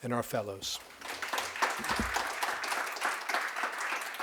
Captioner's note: attendants applauding